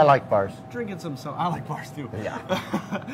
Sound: laughing

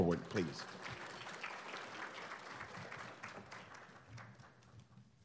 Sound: applauding

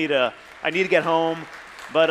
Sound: audience applauding

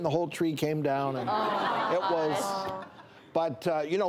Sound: audience laughs

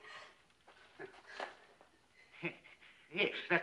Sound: chuckles

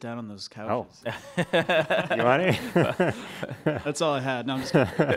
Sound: laughter

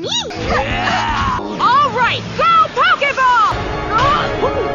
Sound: dramatic sounds

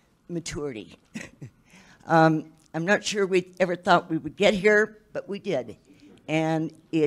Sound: chuckles

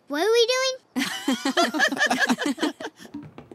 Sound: laughing

